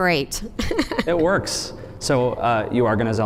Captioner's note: chuckles